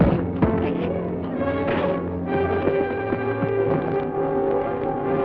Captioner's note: all punching and grunting